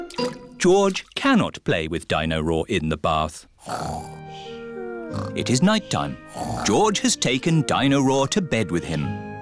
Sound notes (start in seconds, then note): 4.8 snoring